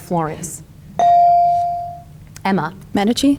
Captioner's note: bell dings